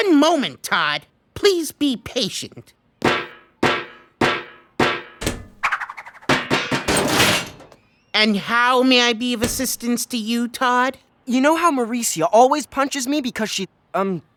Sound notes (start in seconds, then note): 3.0 tapping